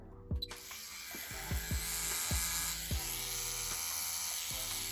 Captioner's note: tattoo machine buzzing